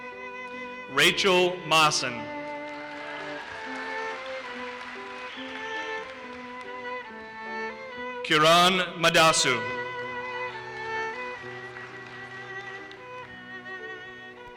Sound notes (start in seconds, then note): 1.2 audience cheers and applauses; 9.4 audience applauses